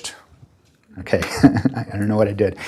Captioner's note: presenter chuckling